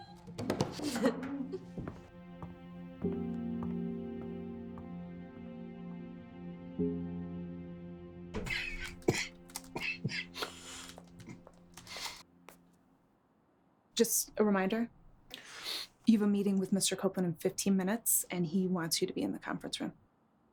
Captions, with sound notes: (Stephanie laughing) (slow music) (David coughing) - Just a reminder, you have a meeting with Mr. Copeland in 15 minutes and he wants you to be in the conference room.